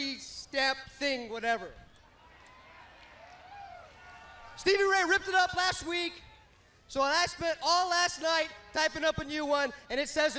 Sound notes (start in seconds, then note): 6.2 crowd cheering